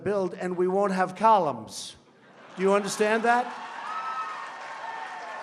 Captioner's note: laughter